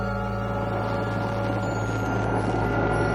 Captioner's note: crickets chirping